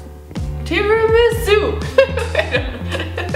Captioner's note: laughs